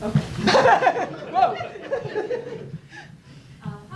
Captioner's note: laughs